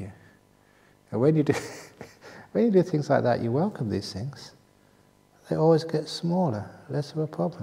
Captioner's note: chuckle